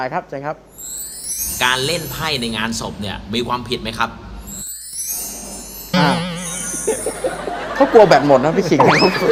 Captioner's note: laughing